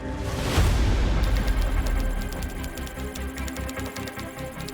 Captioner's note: keyboard clacking